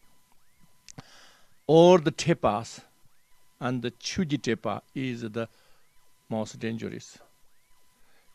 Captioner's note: tibetan